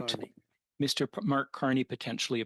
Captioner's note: speaking French